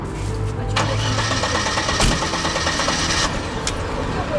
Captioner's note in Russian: машина заводится